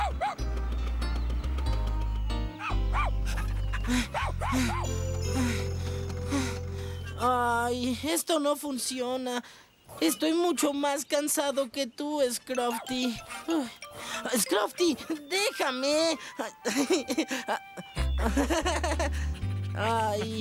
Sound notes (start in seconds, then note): 2.9 barking & Panting; 5.3 out of Breath; 12.6 bark!; 14.9 giggling; 19.1 panting